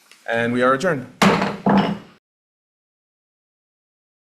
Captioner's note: gavel bangs